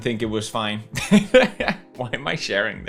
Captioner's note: skratta